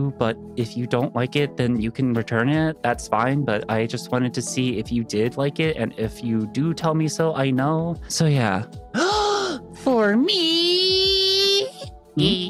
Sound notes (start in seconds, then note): 8.9 gasps